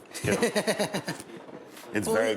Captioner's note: Morimoto laughing